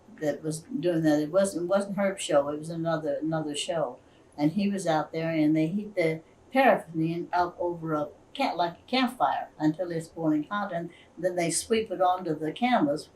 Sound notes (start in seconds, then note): none